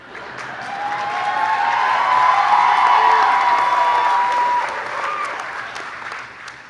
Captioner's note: clapping